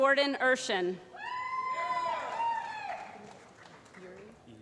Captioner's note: applause